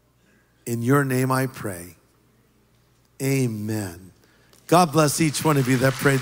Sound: applause

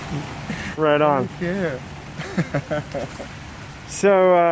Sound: laughs

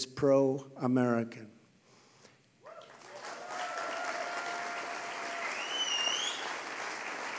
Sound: applause

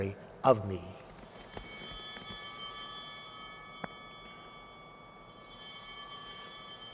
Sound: chimes ringing

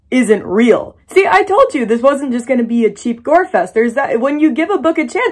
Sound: stammers

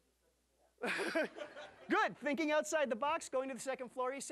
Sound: audience laughing

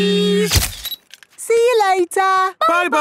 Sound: camera click

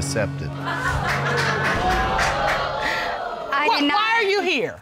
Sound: audience gasps

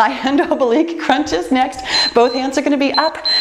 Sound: timer beeps

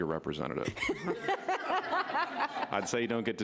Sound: laughing

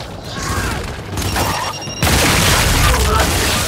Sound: gunshots

